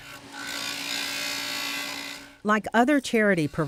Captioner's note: drilling